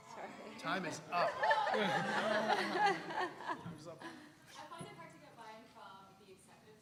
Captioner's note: laugh